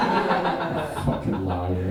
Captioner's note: audience laughing